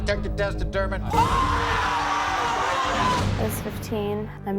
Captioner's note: audience oohs